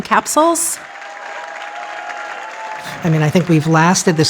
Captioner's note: audience applauding and cheering